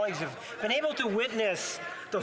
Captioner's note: speaking French